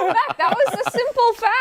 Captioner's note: laughter